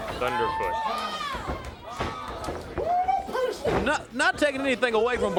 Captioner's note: crowd cheering